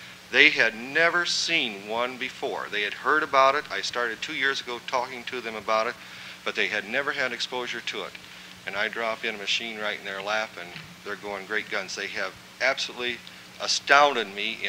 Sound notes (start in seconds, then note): none